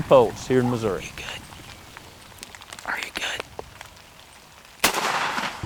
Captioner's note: whispering